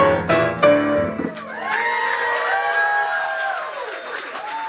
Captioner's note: crowd cheering